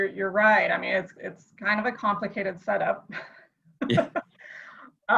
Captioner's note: laughs